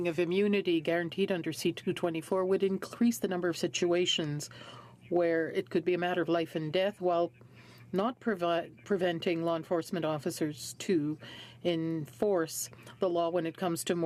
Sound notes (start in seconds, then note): 4.4 speaking French